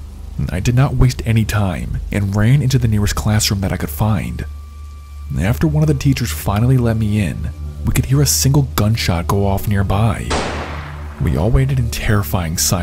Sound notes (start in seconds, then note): 10.3 gun shot